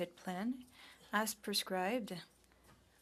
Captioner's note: speaking French